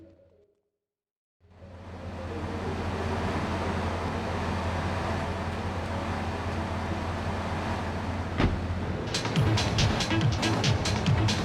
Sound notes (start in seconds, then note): 1.7 engine roaring; 4.7 dramatic music